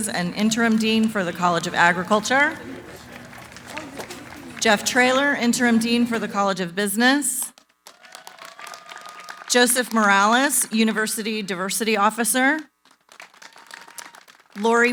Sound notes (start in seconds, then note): 2.4 applause